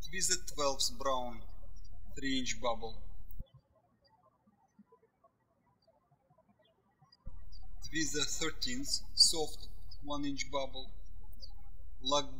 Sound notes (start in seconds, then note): 0.0 birds chirping; 3.8 birds chirping